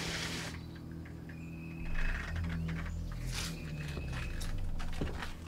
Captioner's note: birds chirping; suspenseful music continues; footsteps thud